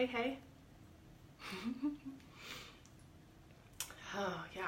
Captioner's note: laughs